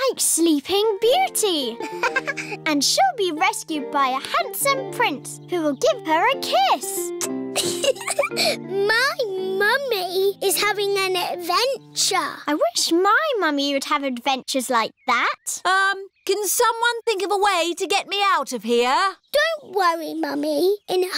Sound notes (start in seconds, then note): 1.8 laughs; 7.2 air kisses; 7.5 giggles